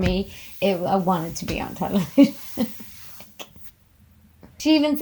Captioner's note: laughs